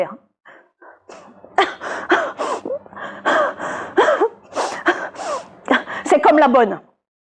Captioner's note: Aglaé cries